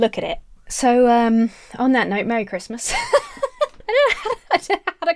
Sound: laughs

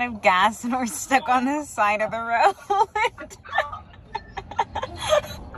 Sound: laughs

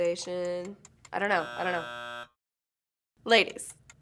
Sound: buzzer

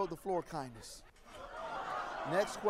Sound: audience laughs

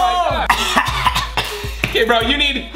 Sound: coughing

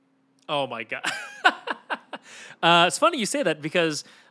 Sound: laughs

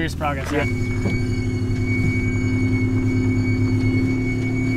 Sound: hissing sound

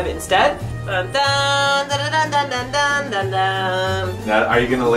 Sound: humming announcement tune

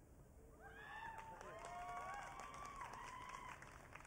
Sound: audience cheering

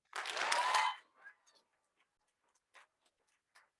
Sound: audience clapping

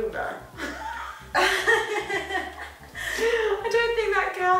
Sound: both laughing

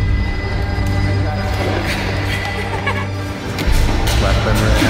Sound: emma giggles

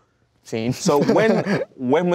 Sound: laughs

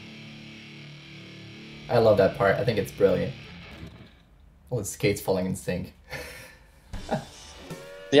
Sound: laughs

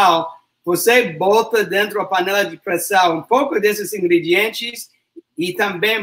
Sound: speaks portuguese

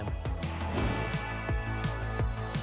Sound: whoosh

